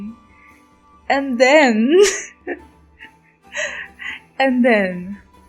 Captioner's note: laughs